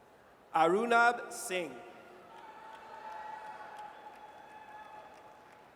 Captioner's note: audience cheers